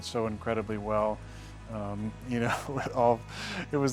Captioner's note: laughs